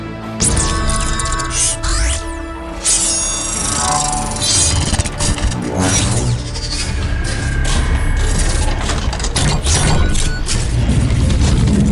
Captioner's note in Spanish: Mecánico efectos de sonido